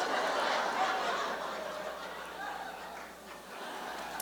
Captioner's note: laughter